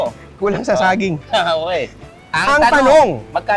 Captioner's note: laughs